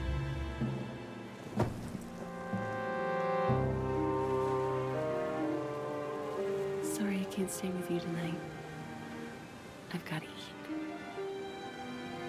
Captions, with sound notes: (John thuds) (pensive music) Sorry, I can't stay with you tonight. I've gotta eat.